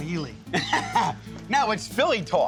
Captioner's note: laughs